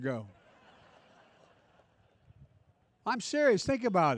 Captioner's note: laughter